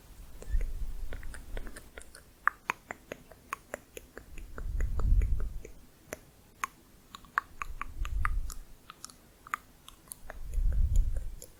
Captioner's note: tongue clicking